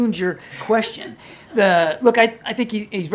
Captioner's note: laughter